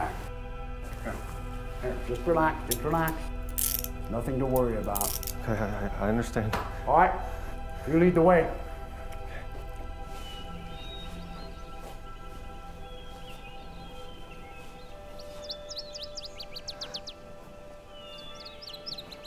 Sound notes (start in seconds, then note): 12.9 birds chirping; 16.6 sullen music